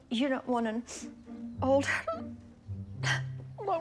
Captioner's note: weeps; sniffs, then sobs